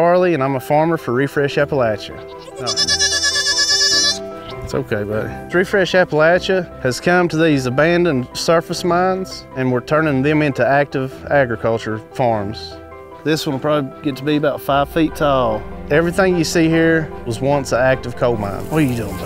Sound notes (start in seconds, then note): 2.2 sheep bleating